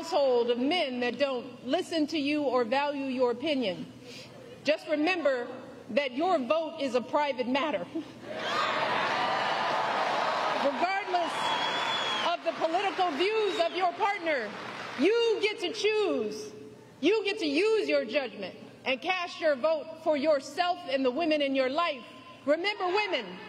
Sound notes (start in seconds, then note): 11.4 applause